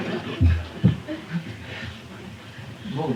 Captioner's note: laughter